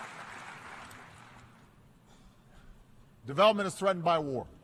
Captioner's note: applause